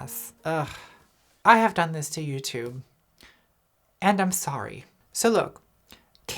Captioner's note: groans